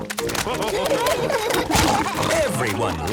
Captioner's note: splashing